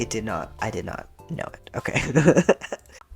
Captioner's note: laugh